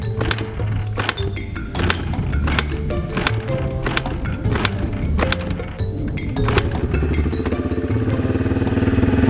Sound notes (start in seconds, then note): 0.1 clanking; 5.8 motor starts